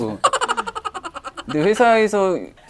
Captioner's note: giggling